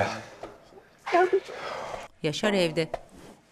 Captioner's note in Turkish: İç çekme sesi